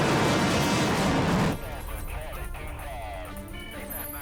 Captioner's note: phone filter speech